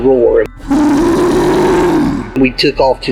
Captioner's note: creature roars